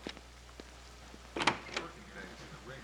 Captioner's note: door opens